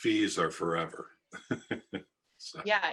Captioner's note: laughs